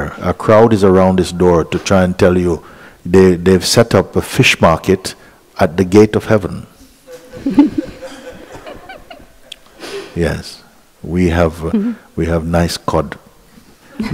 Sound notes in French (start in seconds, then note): 7.1 rires